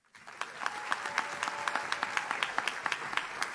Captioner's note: audience claps